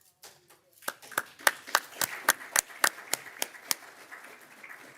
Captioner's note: crowd clapping